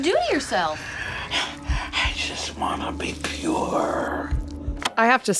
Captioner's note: panting